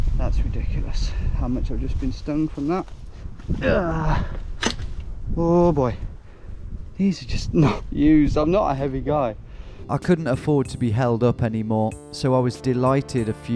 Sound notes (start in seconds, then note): 3.5 grunts; 4.4 wood snaps